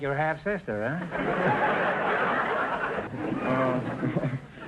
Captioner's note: audience laughter